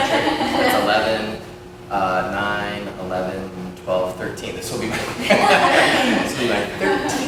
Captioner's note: laughter; laughter